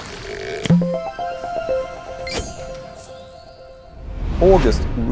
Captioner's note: playful chime